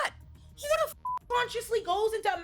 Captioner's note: beep